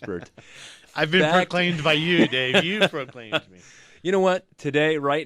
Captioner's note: laughs